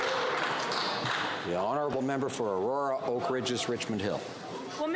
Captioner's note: some Applause